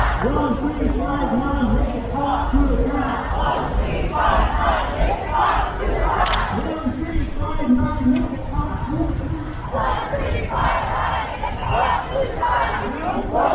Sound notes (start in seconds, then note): 0.0 crowd; 3.3 crowd; 8.2 crowd